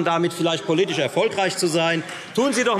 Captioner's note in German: Beifall Freie Demokraten - Widerspruch AfD